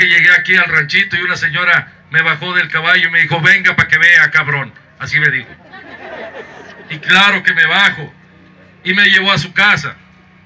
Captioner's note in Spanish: risas